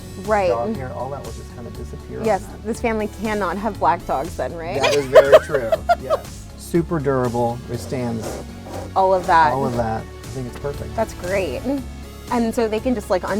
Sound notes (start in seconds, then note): 4.8 laughs